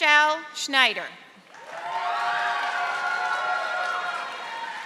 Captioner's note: audience applauding